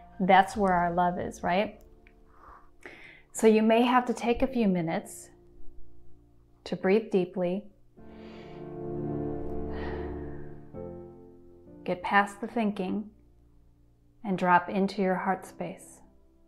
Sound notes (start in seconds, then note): 8.3 gentle music; 9.5 deeply inhaling